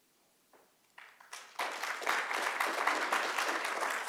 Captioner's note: applause